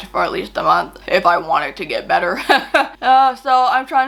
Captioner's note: chuckles